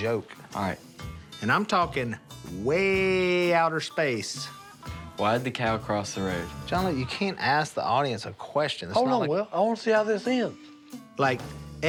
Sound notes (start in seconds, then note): none